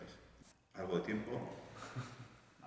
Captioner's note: laughs